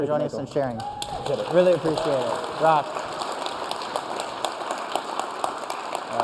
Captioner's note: applause